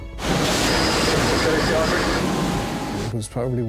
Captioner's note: waves roar